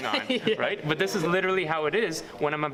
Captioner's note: laughs